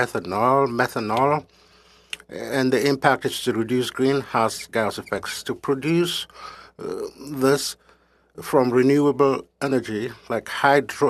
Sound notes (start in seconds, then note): 2.9 speaking French